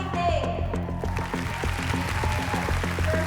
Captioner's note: cheering and applause